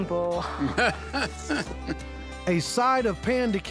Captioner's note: laughing